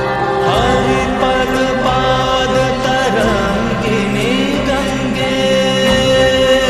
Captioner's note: chanting